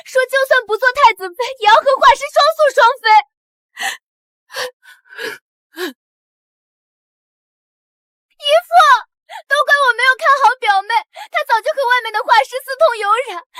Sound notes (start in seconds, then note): 5.8 gasp!